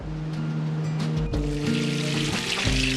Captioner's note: sizzling